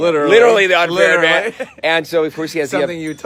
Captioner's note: laughs